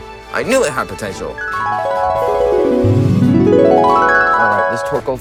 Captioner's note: flashback noises